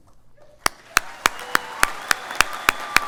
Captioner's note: applause